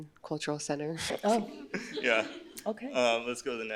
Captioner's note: laughs